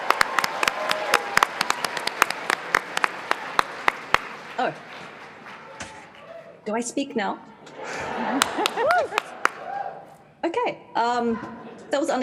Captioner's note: applause